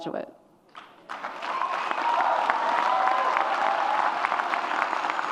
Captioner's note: audience applauds and cheers